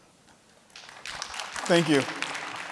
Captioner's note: audience applauding